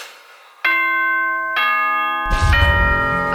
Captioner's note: ding dong bing bong